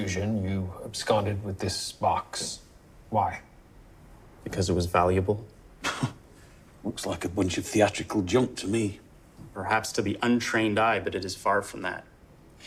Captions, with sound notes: you absconded with this box. Why? - Because it was valuable. (chuckles) - Looks like a bunch of theatrical junk to me. - Perhaps to the untrained eye, but it is far from that.